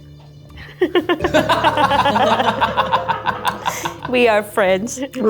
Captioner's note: all laughing